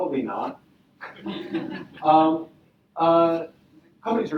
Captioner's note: audience laughing